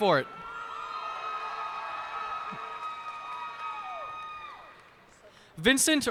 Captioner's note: cheers and applause